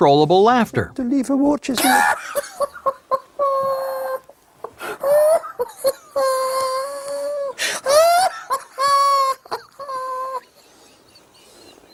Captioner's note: man laughing hysterically